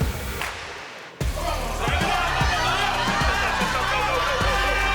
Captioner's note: cheering